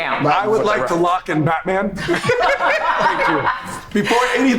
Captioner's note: group laughs